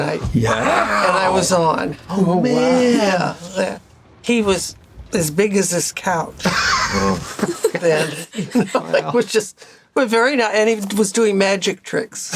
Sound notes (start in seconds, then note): 8.2 laughter